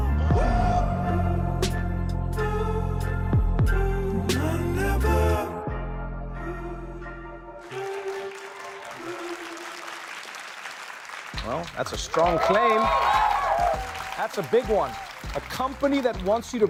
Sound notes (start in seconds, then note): 7.6 applause; 13.1 cheering